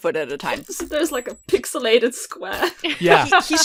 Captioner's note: laughing